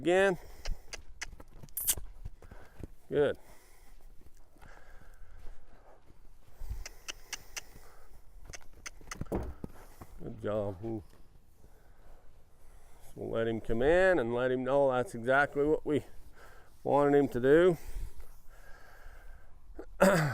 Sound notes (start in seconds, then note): 0.6 clicks tongue; 6.7 clicks tongue